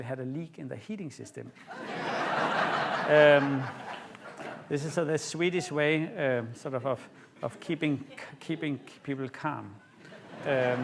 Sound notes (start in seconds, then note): 1.6 laughter